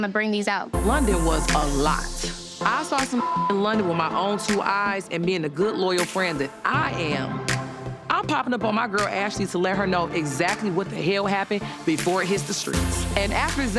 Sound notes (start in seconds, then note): 3.5 beep